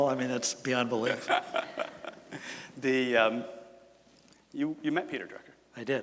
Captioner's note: laughs